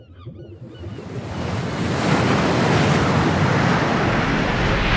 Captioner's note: seagulls cawing